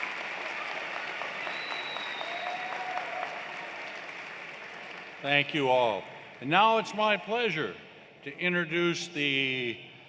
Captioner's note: cheers and Applause